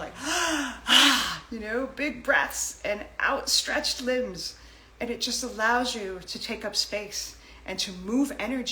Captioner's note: big sigh